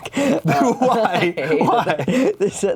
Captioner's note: both chuckle